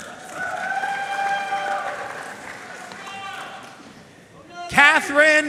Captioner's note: audience cheering and applauding